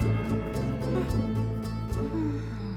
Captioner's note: whimpers